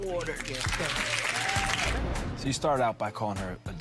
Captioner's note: audience applauds